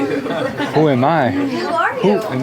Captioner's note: laughs